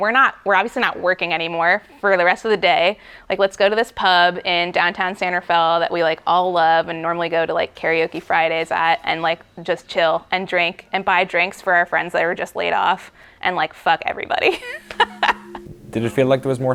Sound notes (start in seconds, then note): 14.5 laughs